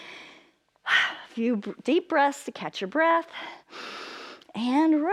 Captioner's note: inhales